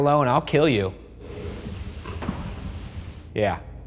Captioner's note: floor creaks